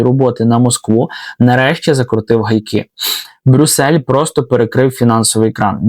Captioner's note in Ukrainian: сопіння